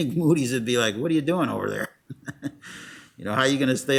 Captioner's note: laughs